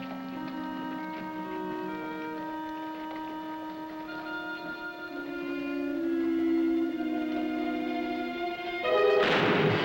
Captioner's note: gunfire